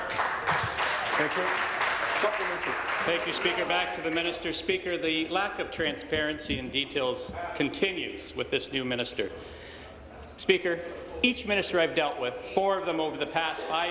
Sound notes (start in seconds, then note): 4.9 applause